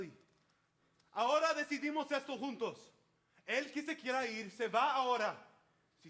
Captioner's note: speaks in Spanish